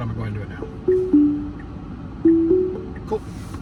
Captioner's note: Tesla car dinging